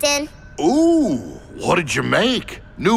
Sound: none

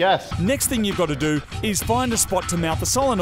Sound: voice over

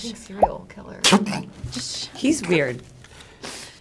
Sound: graphic popping

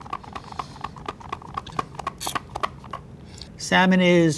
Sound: rice roll shaker shaking

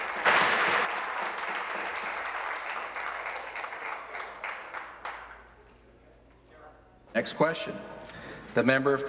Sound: applause

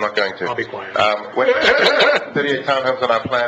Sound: laughs

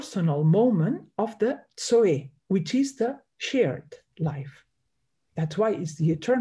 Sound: speaks in Greek

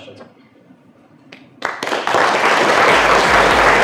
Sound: applause

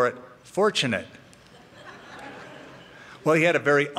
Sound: laughter

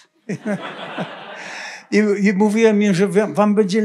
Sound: laughter; foreign language

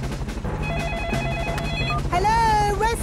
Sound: phone ringing

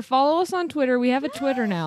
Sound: chuckles

